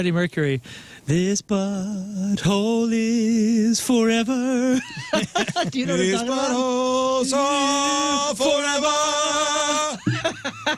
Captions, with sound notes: Mercury. This butthole is forever (Laughing) This butthole is forever